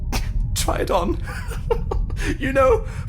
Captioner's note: laughs